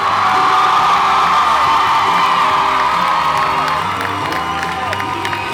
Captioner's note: cheers, applauds